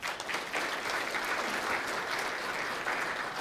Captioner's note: applause